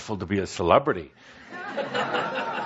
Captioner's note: laughter